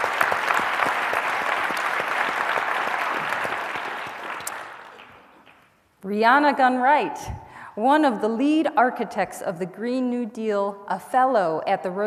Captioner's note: applause